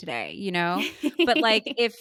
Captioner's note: laughing